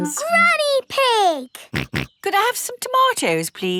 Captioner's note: snorts